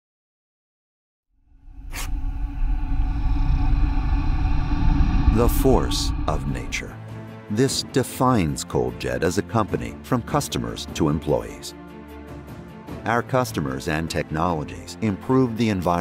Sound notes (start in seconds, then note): 1.5 low subtle growl; 11.4 soft orchestral music